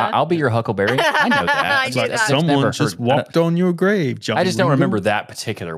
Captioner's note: laughs